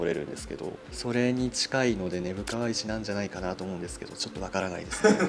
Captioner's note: laughs